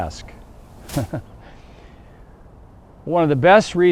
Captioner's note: instructor laughs